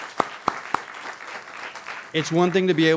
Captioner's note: applause